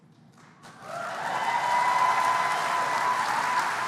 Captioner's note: applause